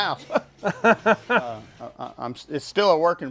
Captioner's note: laughs